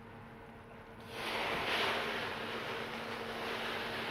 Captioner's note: sizzles